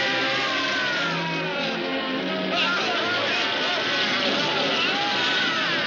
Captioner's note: screams